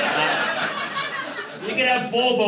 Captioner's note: laughter